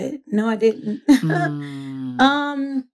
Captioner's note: laughs